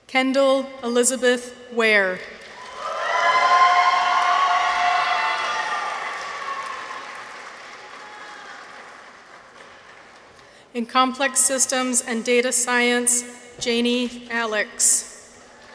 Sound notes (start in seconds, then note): 2.5 people cheer; 2.5 audience applauds